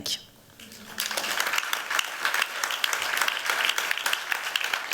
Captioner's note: audience clapping